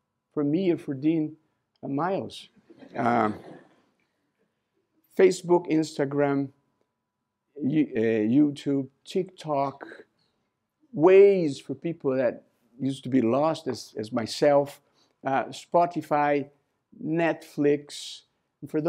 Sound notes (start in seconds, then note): 2.6 laughter